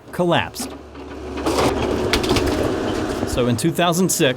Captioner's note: wood crunching